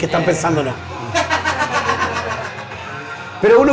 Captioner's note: laughs